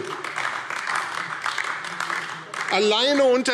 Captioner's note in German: Beifall AfD